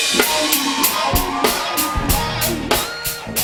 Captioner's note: cheers and applause